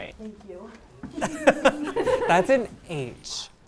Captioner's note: laughter